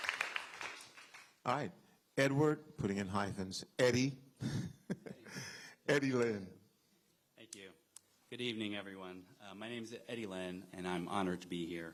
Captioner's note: applause